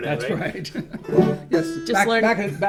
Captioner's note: chuckles